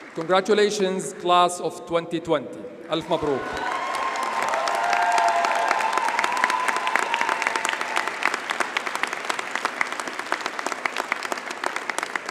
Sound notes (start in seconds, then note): 3.0 audience cheers and applauds; 3.1 speaks Arabic